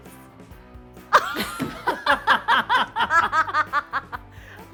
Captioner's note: group laughs